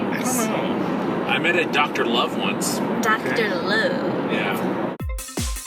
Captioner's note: faux Southern Accent; dance music